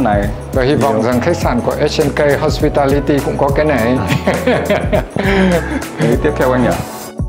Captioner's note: laugh